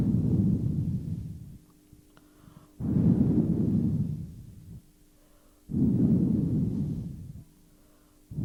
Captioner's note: shri mataji blows into the microphone